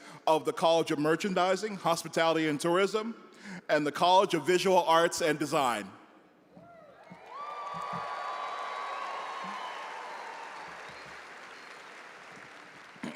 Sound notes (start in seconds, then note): 6.6 audience cheering; 7.0 audience applauding